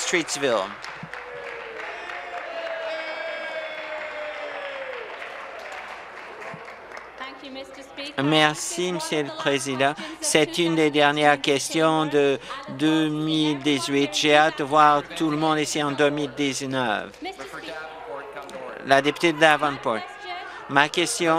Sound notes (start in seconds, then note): 0.0 applause; 7.0 cheers